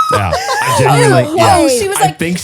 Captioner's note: laughs